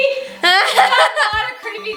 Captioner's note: laughs